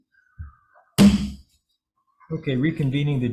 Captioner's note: gavel bangs